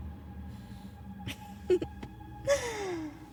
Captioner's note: giggles